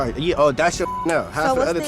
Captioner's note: beep